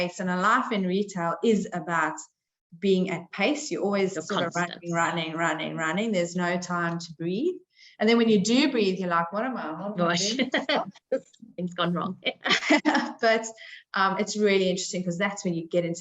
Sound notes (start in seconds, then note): 10.0 chuckling; 12.2 chuckling